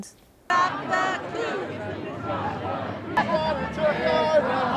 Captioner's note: crowd chattering